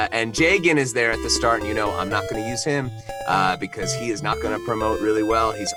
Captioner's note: none